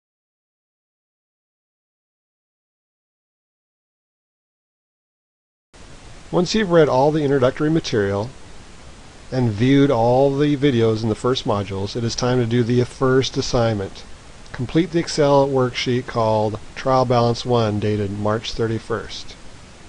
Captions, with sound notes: - [Voiceover] Once you've read all the introductory material and viewed all the videos in the first modules, it is time to do the first assignment. Complete the Excel worksheet called Trial Balance one, dated March 31st.